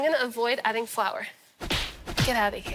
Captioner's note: smacking